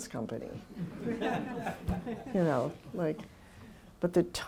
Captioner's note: laughter